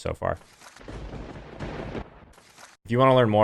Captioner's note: thunder rumbling